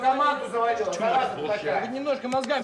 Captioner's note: reprimanding in russian